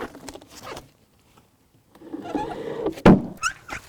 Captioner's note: wood creaking; wood thuds